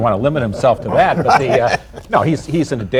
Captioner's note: laughter